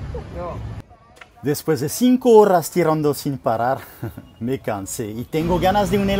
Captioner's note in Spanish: risa